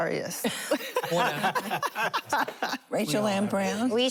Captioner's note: laughter